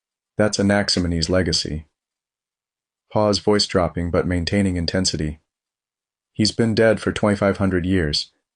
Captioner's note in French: Pause, voix qui baisse, mais qui reste intense